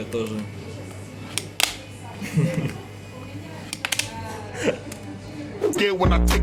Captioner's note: laughs